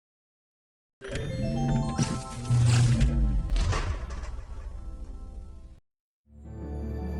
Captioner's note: dramatic music continues; screens whir and clank; bright music; soft dramatic music